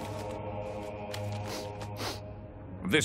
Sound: sniffing

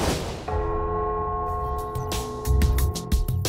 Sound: bell Tolls

